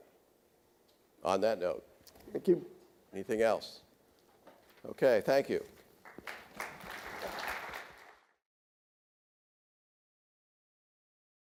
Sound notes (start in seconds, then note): 6.0 audience applauds